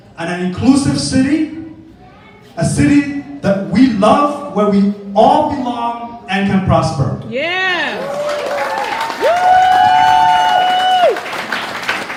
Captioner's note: audience: yeah! applause cheers of wooooooo